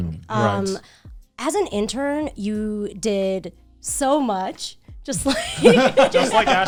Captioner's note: laughs